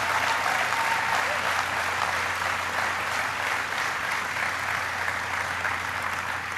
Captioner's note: applause